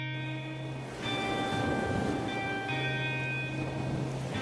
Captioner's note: waves rolling